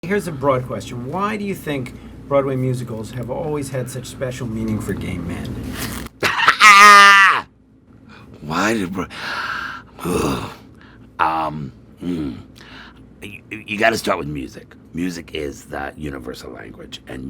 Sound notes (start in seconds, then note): 6.2 Harvey laughing; 9.9 Harvey sighing